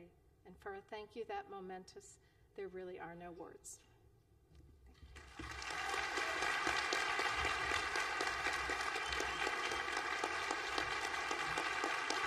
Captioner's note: applause